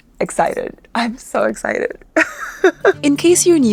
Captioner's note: speaker laughs